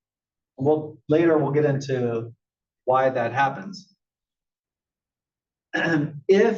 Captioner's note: cough